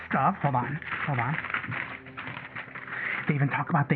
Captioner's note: rustling